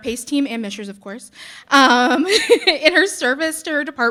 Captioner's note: chuckling